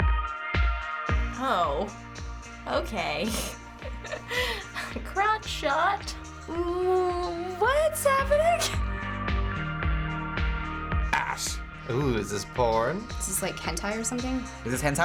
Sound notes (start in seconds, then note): 3.2 chuckles